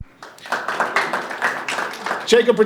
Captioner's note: audience applauding